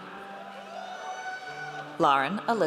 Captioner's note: audience cheers